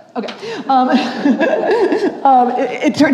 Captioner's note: chuckles